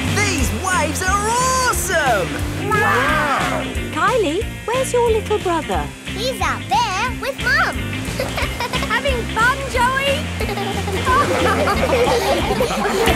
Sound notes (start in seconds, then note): 9.7 laughing; 10.1 giggles